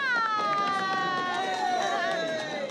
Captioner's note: applause